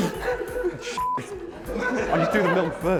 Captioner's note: laughter continues